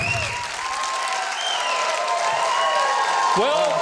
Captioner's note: audience cheering